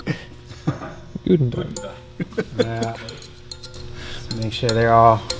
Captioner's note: laughs loudly; foreign language